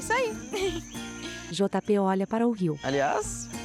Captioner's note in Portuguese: Pássaros